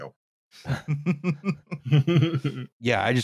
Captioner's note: laughter